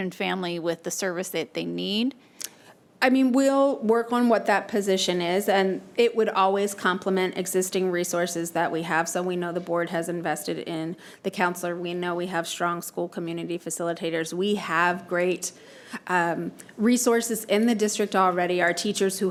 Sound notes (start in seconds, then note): none